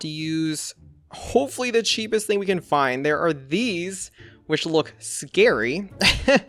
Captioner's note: laughs